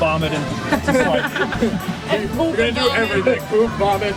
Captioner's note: laughs